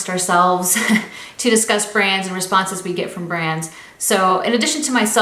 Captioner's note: laughs